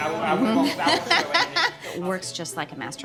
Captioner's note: laughing